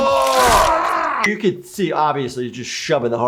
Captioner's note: heavy screams; ribcage cracks